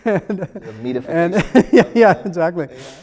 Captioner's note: laughs